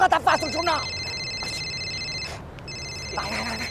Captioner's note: phone rings